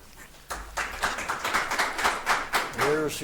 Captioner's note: audience applauding